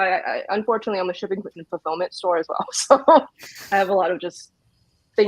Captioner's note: laughs